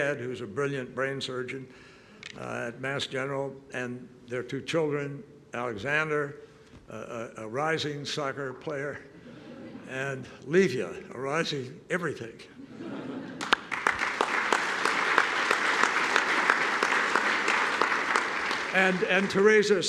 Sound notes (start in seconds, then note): 9.8 laughter; 12.6 laughter and applause